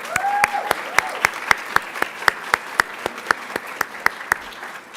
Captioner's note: applauds; cheers